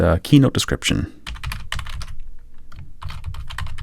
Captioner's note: typing